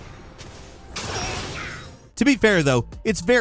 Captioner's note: champion yelling